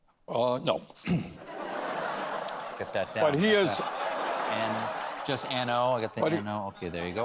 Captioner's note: laughter